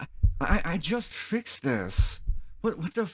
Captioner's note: heartbeats